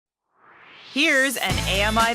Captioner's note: swoosh